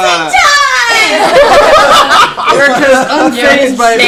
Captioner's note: laughter